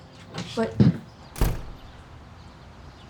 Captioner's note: door slams